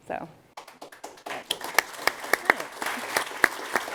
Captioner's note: applause